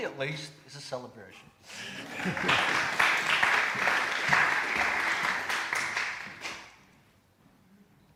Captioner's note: applause!